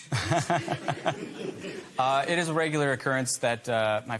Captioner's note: laughter